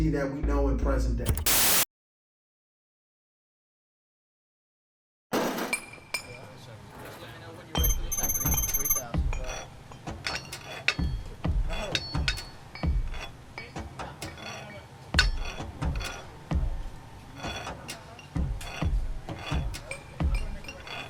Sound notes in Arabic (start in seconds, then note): 1.4 لا صوت; 7.9 الناس يتحدثون بهدوء; 13.8 الناس يتحدثون بهدوء; 15.6 كشط المعادن، التنصت